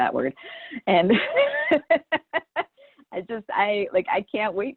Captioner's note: laughs